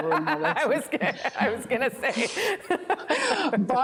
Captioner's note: laughter